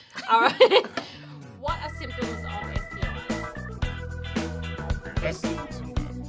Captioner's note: laughs